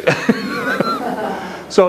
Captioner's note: laughter